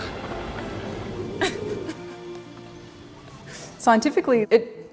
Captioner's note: laughs